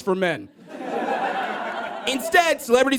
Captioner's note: audience laughs